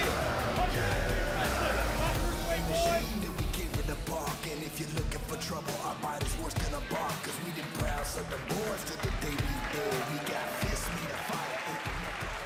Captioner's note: crowd cheering